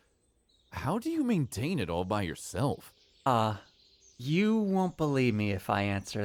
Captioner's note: hesitant, slightly teasing